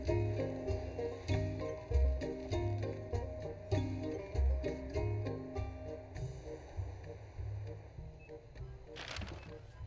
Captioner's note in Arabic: المحادثات الخلفية